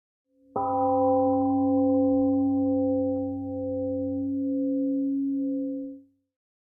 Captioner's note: temple gong rings and fades